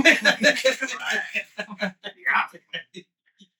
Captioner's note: laughing